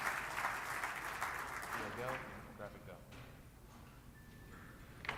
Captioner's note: applause